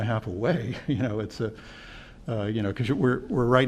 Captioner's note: laughter